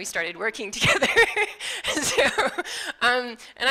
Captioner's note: laughing